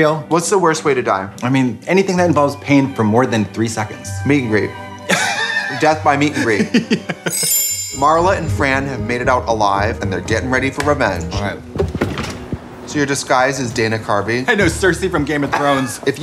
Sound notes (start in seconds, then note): 5.0 laughing